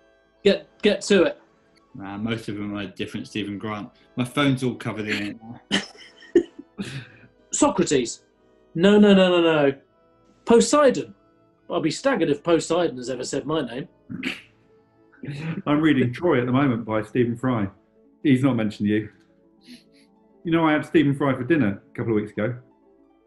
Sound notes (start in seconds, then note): 4.9 giggling; 14.0 sniggering